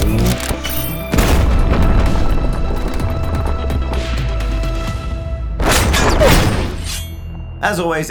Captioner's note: boom